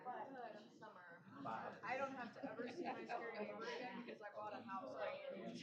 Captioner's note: off-mic chatter